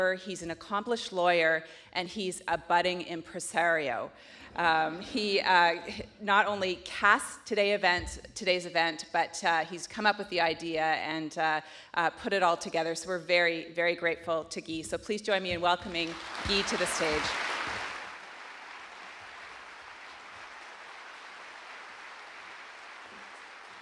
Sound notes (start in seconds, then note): 16.0 court and audience applauding